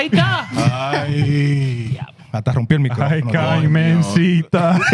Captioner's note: speaking Foreign Language